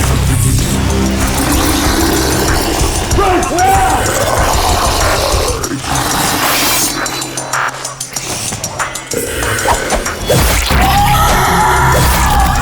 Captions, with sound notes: - Throw me the muzzle. (dramatic music) Break now. (zombie growling) (dramatic music)